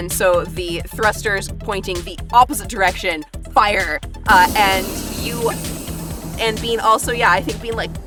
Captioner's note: thrusters fire